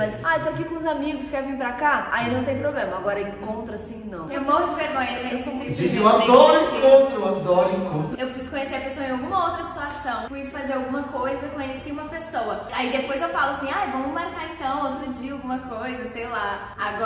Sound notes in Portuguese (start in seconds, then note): none